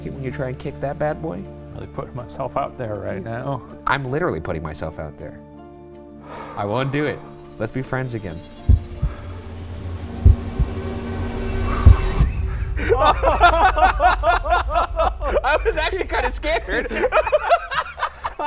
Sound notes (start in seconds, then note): 8.6 heart softly beating; 9.2 intense music; 12.0 laughing